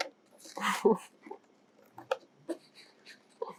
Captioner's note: laughing